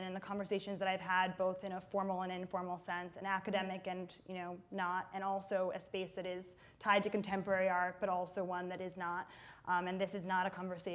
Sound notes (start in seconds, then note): none